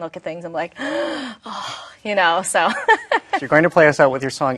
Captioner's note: gasps